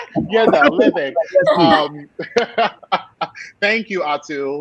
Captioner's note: laughing